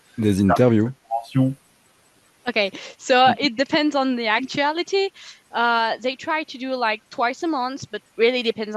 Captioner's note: translating from French